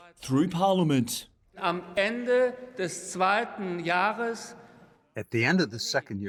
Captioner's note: through translator